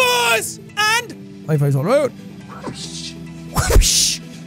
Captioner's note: whoopsh 2x